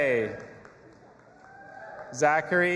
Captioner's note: audience applauding and cheering